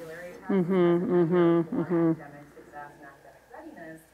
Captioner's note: hums